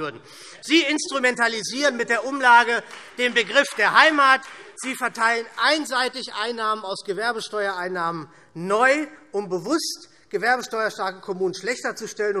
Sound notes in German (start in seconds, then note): 1.7 Beifall Freie Demokraten